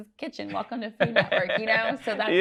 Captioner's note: laughs